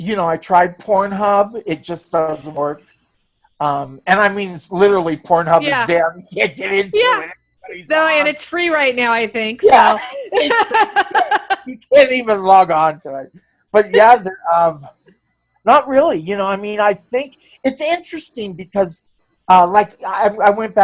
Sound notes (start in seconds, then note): 9.6 laughs